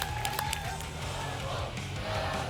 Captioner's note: applause and cheering; audience chanting "double!"